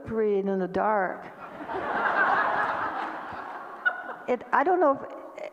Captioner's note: audience laughter